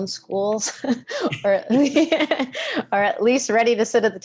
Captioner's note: both laugh